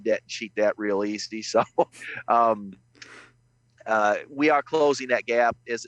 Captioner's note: chuckles